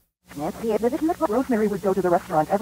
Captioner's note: reversed chatter